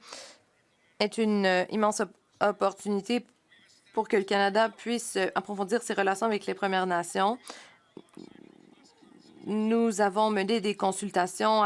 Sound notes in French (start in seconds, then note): 1.5 voix de l'interprète